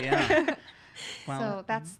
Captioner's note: laughing